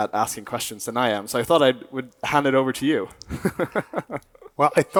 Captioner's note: chuckles